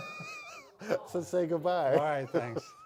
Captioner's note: laughing